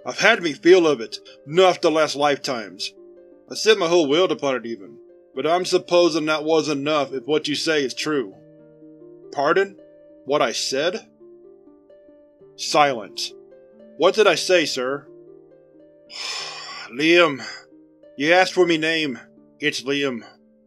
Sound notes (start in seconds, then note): 11.7 silence; 16.1 Mr. Doe sighs